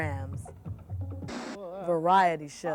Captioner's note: static noise